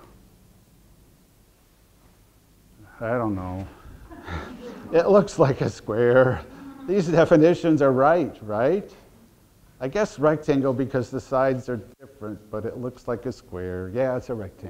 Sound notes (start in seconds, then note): 4.0 audience laughter